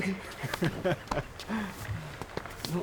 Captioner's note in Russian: смех